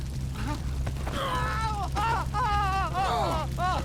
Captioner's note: uncle screams in agony